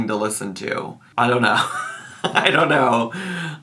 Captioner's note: laughs